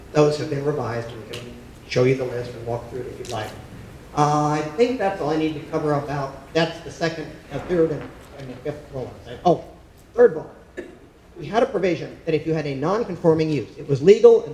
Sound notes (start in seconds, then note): 7.5 speaking faintly